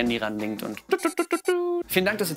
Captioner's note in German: macht technische Piepgeräusche